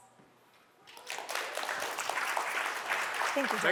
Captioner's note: applause